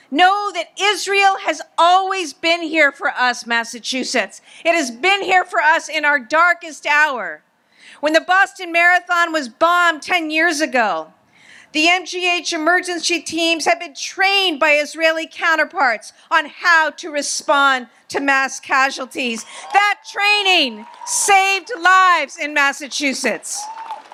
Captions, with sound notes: know that Israel has always been here for us, Massachusetts. It has been here for us in our darkest hour. When the Boston Marathon was bombed 10 years ago, the MGH emergency teams had been trained by Israeli counterparts on how to respond to mass casualties. (audience applauds and cheers) That training saved lives in Massachusetts.